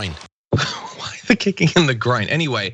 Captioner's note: laugh